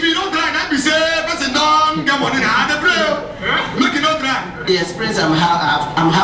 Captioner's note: speaking in foreign language